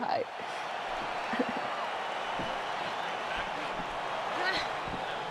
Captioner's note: crowd cheering